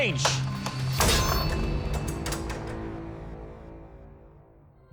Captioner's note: crashing